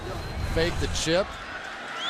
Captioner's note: cheering